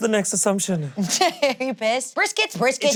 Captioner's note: laughs